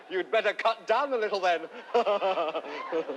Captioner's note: chuckles